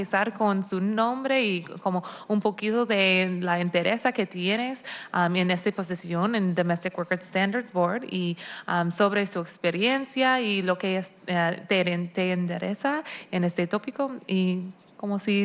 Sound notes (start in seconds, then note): 4.4 speaking spanish